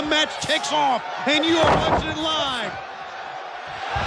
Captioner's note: body thudding; audience cheering